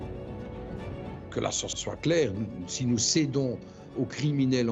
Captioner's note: French spoken audio